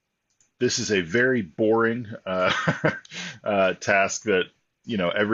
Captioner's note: laughs